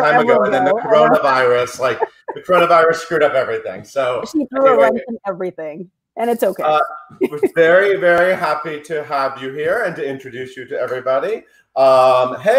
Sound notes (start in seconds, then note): 6.6 laughs